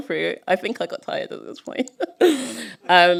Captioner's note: laughter